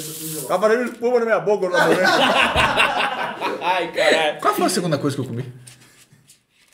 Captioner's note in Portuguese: risos